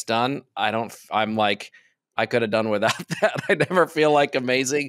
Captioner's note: chuckles